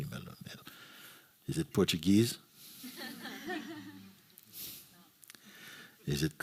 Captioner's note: laughter